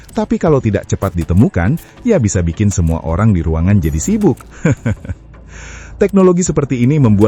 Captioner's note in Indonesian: tertawa